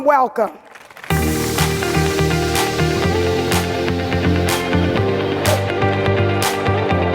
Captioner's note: audience applauding; upbeat music